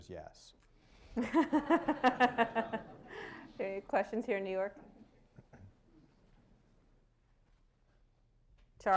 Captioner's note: laughter